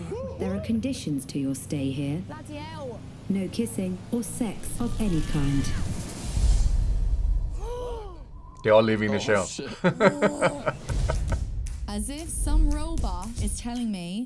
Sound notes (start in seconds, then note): 7.6 men gasp; 9.6 laughs